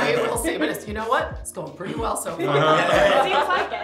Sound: laughing; all laughing

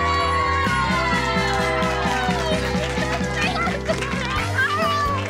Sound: cheering

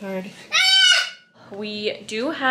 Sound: baby yells

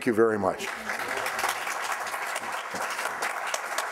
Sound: applause

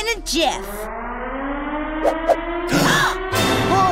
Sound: alarm blares

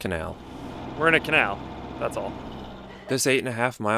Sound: laughs

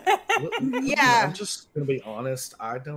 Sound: game Master laughs

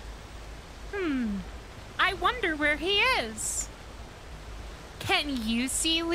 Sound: kids' show host voice

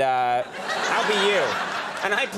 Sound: audience laughing

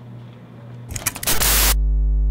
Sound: latch clicks

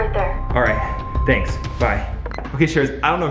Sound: phone beeps

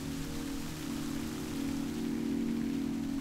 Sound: sound of water splashing in fountain

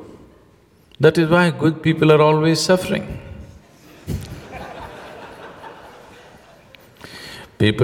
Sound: laughter

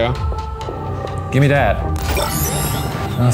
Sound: shard bleeps

